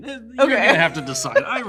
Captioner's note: laughs